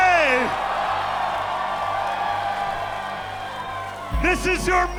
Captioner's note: crowd cheering